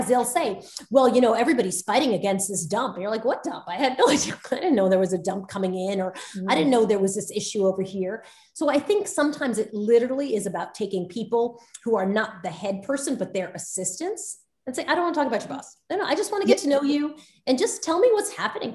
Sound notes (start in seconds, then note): 4.3 Soledad laughs